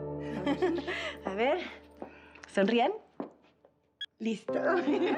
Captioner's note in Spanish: risas